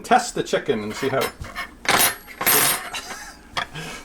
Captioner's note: clattering